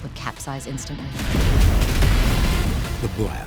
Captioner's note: explosion booming